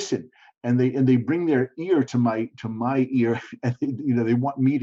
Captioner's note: chuckling